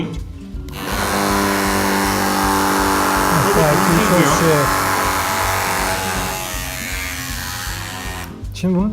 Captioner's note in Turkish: Elektrikli motor sesi